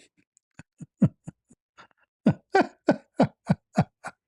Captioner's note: laughter